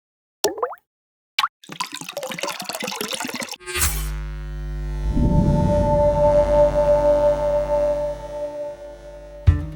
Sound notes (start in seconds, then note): 0.5 water dripping; 3.6 current buzzing; 5.0 ethereal electronic music